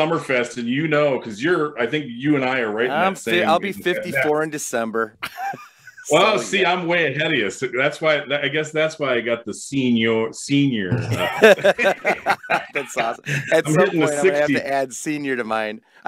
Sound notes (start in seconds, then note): 5.2 laughs; 10.9 both laugh